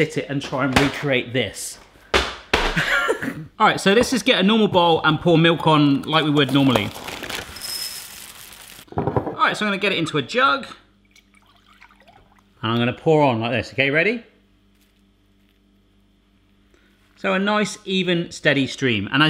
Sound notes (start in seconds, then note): 1.9 box hitting floor; 3.0 chortle; 7.8 soft jostling; 11.0 flowing liquid